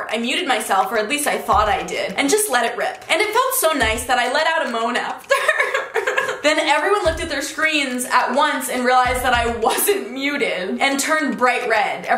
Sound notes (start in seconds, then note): 5.2 giggling